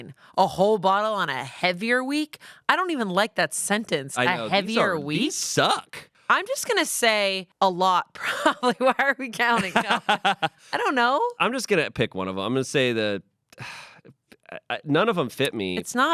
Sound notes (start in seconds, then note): 9.5 everyone laughs